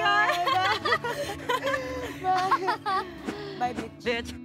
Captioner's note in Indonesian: Ketawa